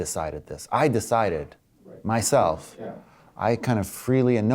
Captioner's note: voiceover